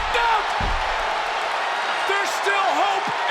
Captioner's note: crowd cheers